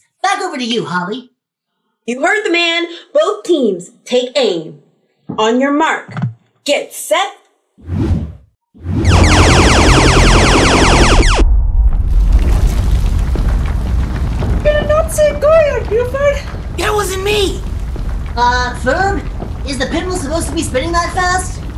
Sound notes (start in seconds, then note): 8.9 laser firing; 11.4 ground shakng